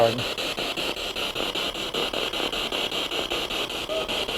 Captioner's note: noise of the spiritbox in the background